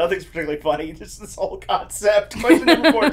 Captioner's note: laughs